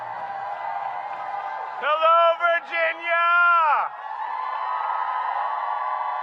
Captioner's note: applause